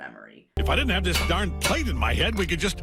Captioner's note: metal clanks